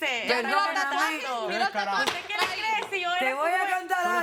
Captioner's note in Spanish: Comentarios al unísono